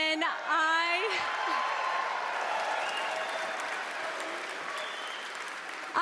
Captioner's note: cheering